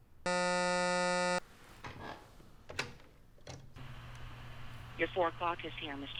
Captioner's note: intercom buzzing